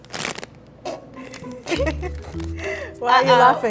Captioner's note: laugh